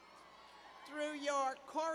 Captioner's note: cheers